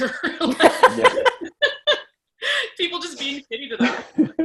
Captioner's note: all laugh